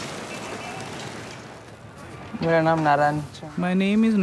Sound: through translator

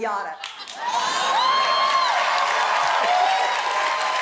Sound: applause

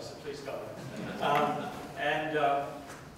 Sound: laughter

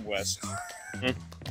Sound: laugh

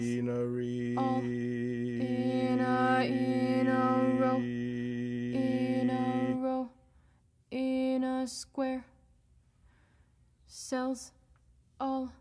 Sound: monotone

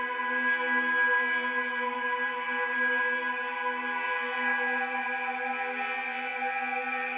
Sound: none

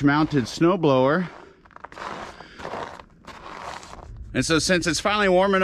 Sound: footsteps crumpling

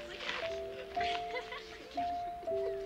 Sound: girls giggling; chuckles

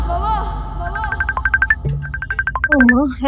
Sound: phone ringing

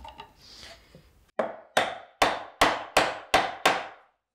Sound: hammer bangs

